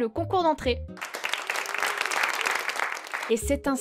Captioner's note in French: Applaudissements